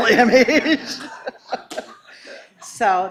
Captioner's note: laughing